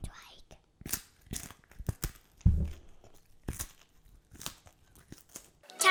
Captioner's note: crunching